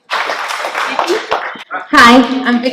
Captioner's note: clapping